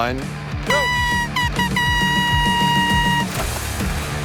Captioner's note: horn blows